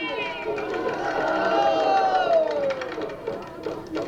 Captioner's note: shouting; banging on drums